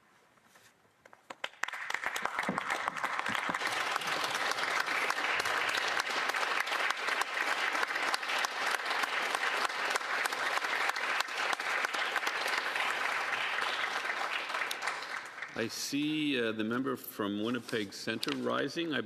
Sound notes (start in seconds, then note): 6.3 applause